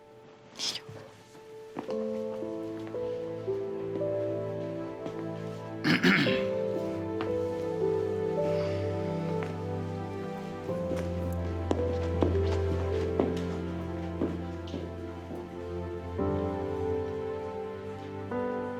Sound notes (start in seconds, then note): 5.8 coughs on purpose